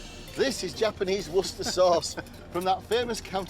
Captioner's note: chuckling